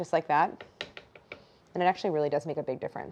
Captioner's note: cutter tapping